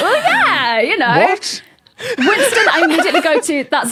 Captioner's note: laughs uproariously